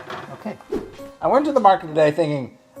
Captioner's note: air whooshing